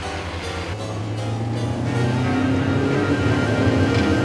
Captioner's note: tense music; engine rumbling